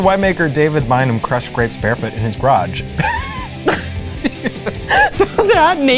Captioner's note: laughs